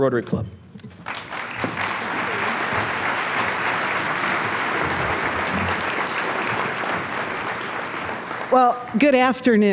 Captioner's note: applause